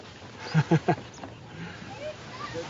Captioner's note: laughs